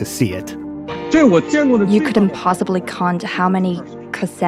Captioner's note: speaking Mandarin Chinese